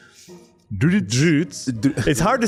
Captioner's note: bad British accent; pretty ok British accent